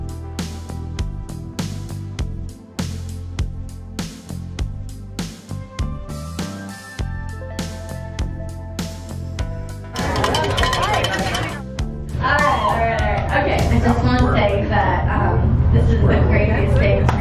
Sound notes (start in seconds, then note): 9.9 bell rings